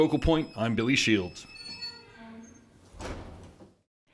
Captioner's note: door creaks